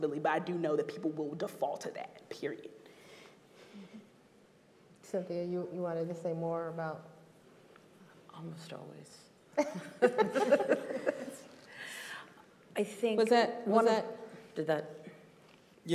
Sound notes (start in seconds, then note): 9.6 group laughing